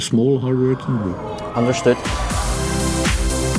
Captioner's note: speaking Dutch